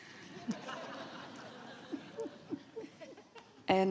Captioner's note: laughter from the audience